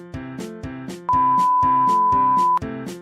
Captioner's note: imploring beeping